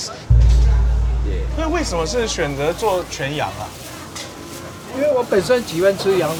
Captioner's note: group speaking foreign language